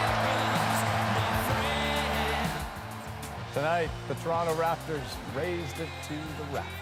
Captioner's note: cheers and Applause